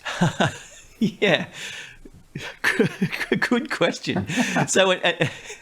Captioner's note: laughs